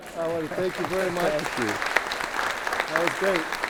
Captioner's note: audience applauds